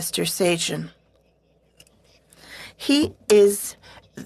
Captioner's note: speaking French